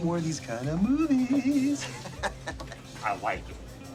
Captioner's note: laughs